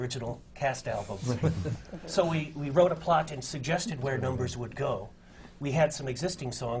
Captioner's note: laughter from the panel